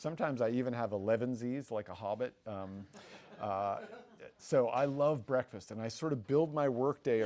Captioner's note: audience laughs